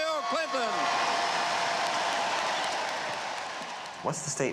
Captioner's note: crowd cheering